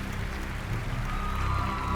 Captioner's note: cheers and applause